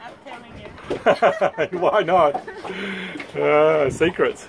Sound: laughs

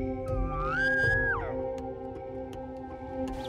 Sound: elk call

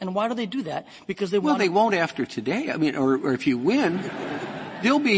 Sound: laughter

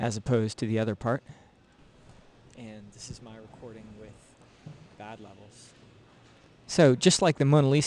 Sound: recorded sound being played back

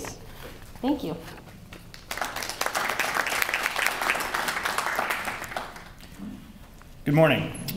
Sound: applause

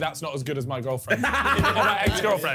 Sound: laughing

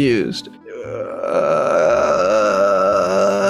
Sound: groans

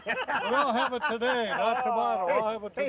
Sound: men laughing

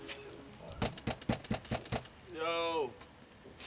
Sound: door knocking

